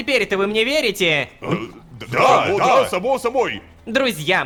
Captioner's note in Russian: Согласие толпы